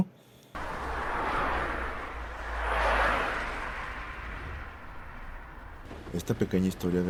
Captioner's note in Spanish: Sonido de auto en carretera circulando a alta velocidad